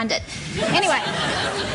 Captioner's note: laughter